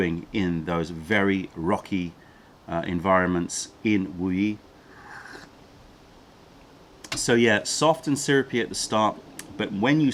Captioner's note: sips tea